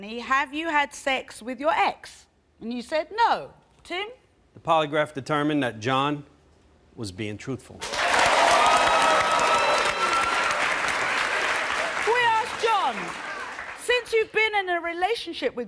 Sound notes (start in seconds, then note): 7.8 applause